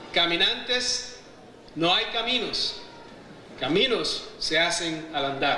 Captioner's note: speaking in foreign language